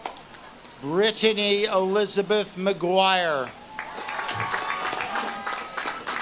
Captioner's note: audience claps and cheers; audience claps and cheers